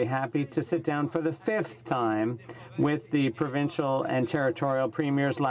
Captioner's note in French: voix de l'interprte